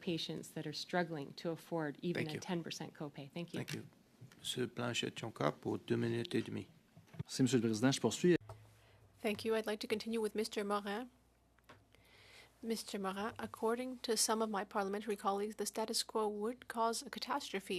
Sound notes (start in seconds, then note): 8.7 speaking French